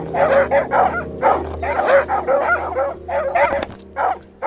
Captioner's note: dogs continue barking